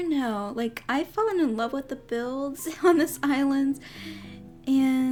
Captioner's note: giggles